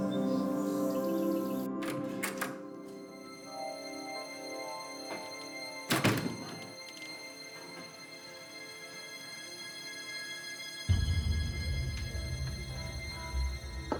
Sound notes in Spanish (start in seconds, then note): 3.4 ruido al entrar